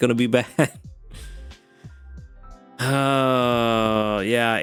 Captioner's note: sighs